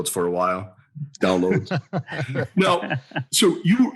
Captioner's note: laughs